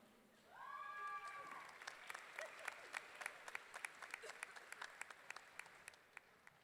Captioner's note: audience clapping and cheering